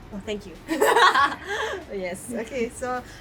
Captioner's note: laughs